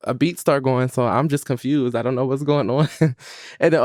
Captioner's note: laughs